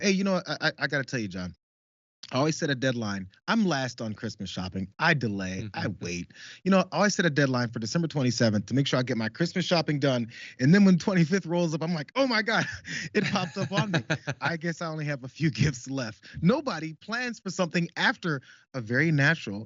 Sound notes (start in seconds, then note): 12.3 laugh